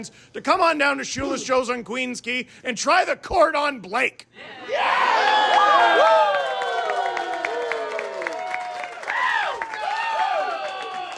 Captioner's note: audience cheering